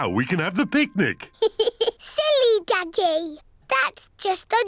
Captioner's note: giggles